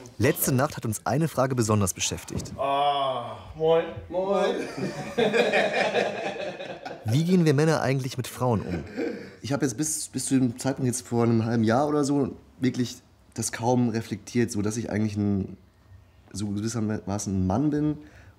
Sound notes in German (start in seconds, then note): 4.4 lachen